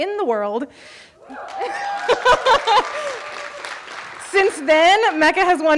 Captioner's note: audience cheering